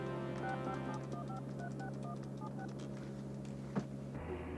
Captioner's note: phone dial beeping